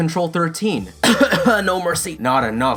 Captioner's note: cough cough